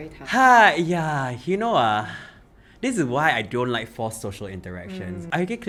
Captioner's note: sighs deeply